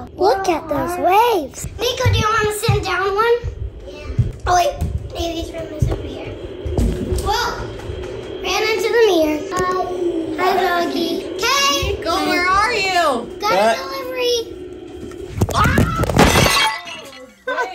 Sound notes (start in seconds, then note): 15.4 phone rustles; 16.1 glass breaking